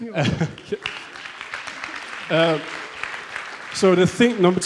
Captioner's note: audience applauds